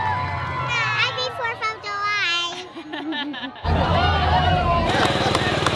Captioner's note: parent laughs